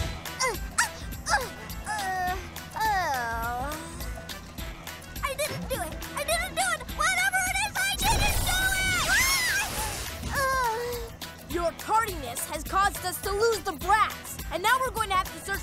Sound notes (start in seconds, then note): 0.4 moaning; 8.7 sighs